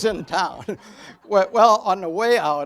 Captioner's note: audience laughs